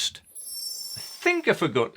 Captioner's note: screen twinkling